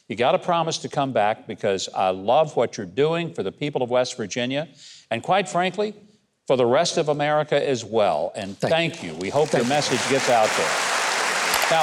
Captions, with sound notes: You gotta promise to come back because I love what you're doing for the people of West Virginia and quite frankly, for the rest of America as well. And thank you. (audience claps) We hope your message gets out there.